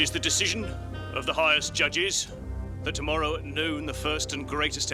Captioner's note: none